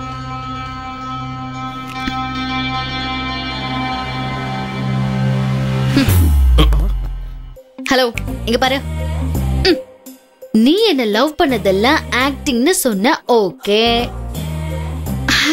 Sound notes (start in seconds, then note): 7.8 snaps finger